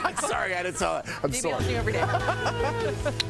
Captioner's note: laughter